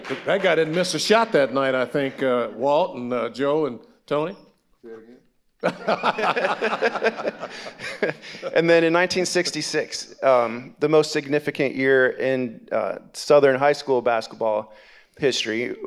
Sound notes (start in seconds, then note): 5.6 all laughing